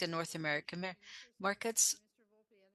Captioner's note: speaking French